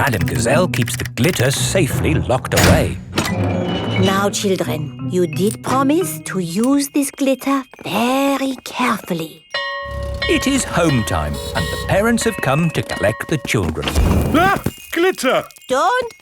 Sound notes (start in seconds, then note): 9.5 school bell ringing